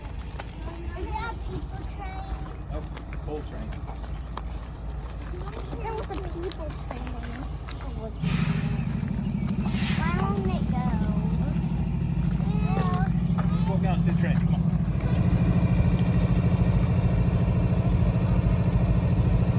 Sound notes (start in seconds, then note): 8.0 train makes a metal clanking sound; 17.1 train running